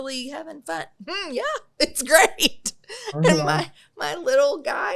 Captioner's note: laughs